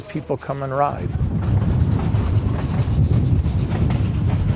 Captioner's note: train chugging